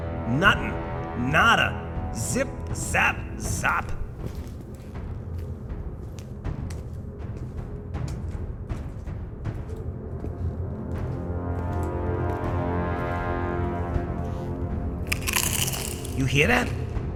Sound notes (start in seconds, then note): 15.0 crunch